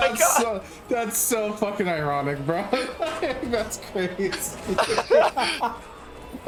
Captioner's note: laughs